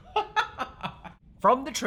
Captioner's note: laughs